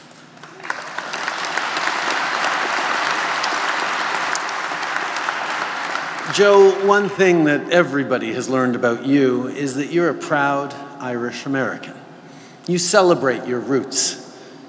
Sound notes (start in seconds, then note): 0.0 applause